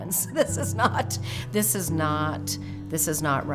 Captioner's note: laughs